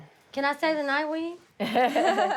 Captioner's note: laughter